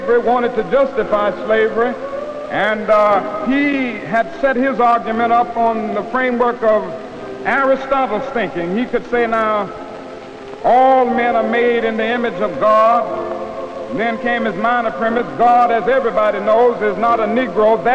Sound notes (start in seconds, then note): none